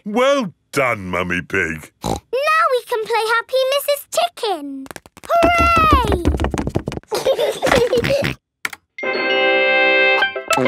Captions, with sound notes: Well done, Mummy Pig! (SNORTS) Now we can play Happy Mrs. Chicken! Hooray! (GEORGE GIGGLES AND SNORTS) (VIDEO GAME MUSIC PLAYS)